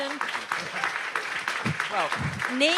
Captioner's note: audience applauds